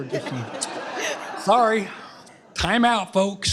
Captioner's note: laughter